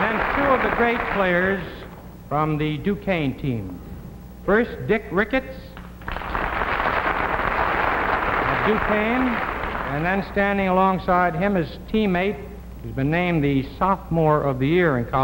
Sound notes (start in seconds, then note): 5.8 audience clapping